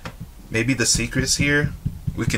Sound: fingers tapping

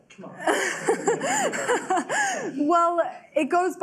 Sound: laughing

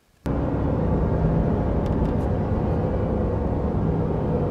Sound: dull buzzing

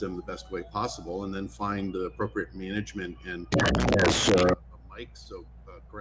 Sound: audio warbles

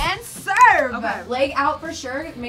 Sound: snaps fingers

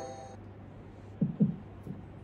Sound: note: Heartbeat sound

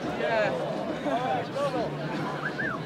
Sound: crowd laughing; man whistling

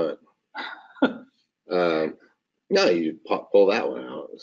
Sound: laughing

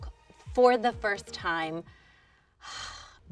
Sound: sighs

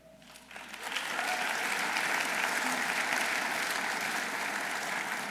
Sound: audience applauding

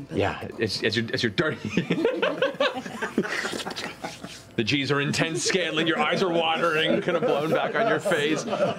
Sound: laughter

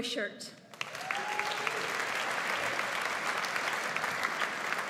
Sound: audience applauds

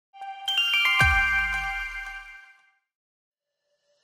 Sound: shimming bells

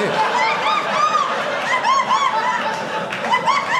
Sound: audience laughing

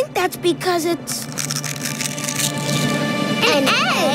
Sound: cracking

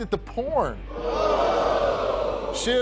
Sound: audience jeers

